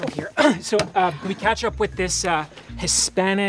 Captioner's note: clears throat